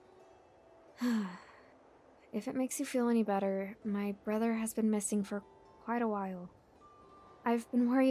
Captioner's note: sigh